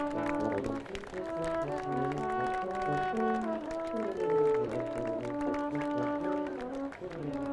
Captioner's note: audience applauding; upbeat processional music